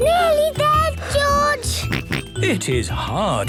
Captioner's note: panting; snorts